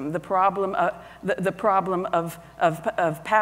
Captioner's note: none